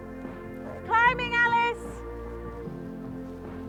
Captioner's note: shouts